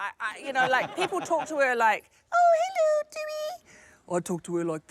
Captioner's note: falsetto